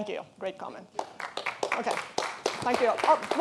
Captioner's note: audience applauding